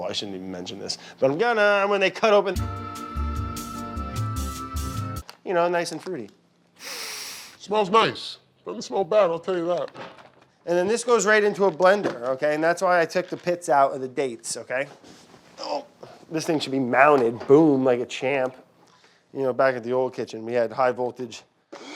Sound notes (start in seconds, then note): 3.0 optimistic music; 6.8 inhaling heavily